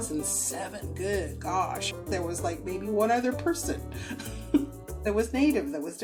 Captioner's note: laughs